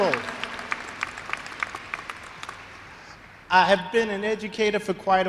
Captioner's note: applause